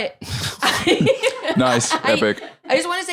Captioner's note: laughs